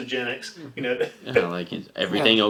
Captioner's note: laughing